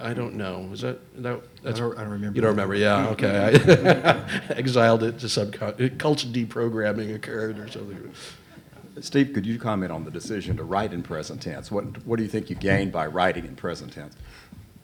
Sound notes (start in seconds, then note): 2.9 laugh